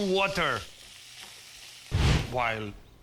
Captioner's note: sizzling